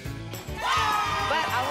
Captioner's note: applause and cheering